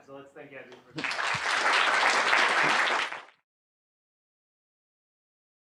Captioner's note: applause